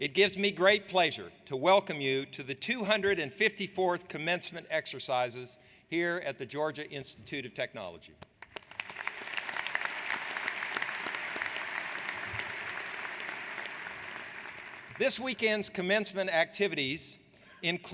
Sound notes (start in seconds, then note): 8.4 audience applauds